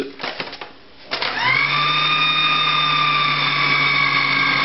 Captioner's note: whirring